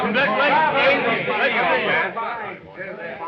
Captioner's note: all greeting